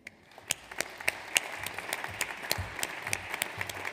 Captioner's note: audience applauds